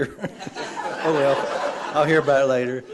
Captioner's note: laughter